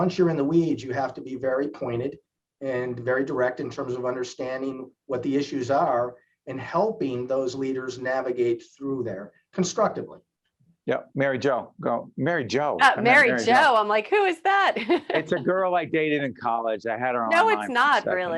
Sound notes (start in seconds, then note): 14.8 laughing